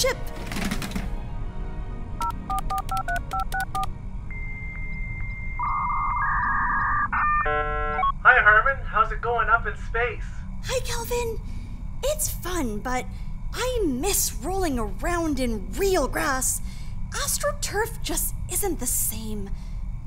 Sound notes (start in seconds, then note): 2.1 boop boop boop; 5.6 dial-up modem connecting